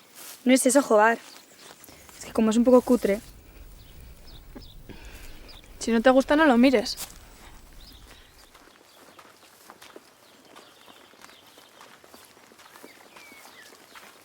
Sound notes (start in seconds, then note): 8.2 birds chirping; 8.2 steps